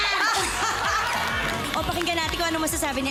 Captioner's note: laughter